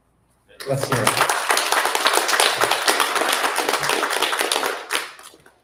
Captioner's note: applause